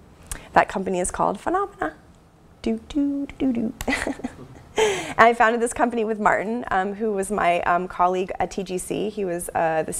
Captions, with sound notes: That company is called Funomena. Do do do do do. [LAUGH] I founded this company with Martin who was my colleague at TGC. He was the,